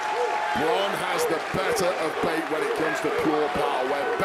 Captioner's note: crowd cheers